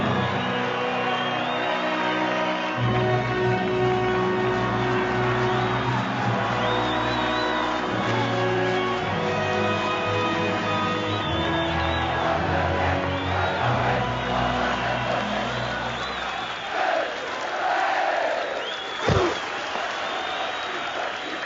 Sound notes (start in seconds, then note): 0.3 inspirational music; 11.5 crowd chants; 19.1 grunting